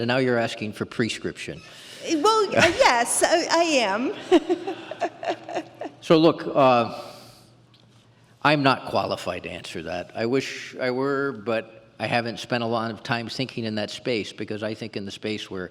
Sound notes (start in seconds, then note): 4.1 laughs